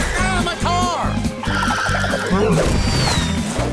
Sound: tires screeching

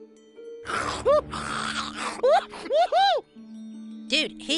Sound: snorting

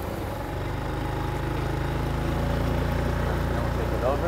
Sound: boat motor roaring

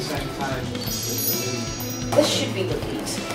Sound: chimes

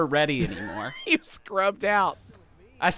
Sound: wheezes

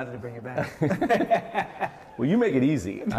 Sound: laughing

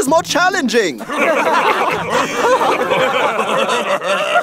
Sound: team laughs

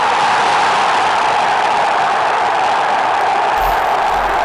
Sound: fans screeming

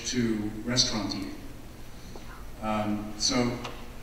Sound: none

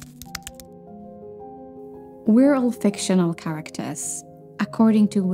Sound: keyboard clicking

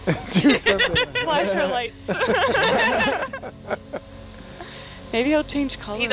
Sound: all laughing

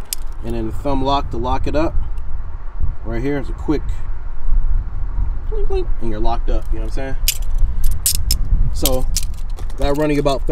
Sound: clink clink

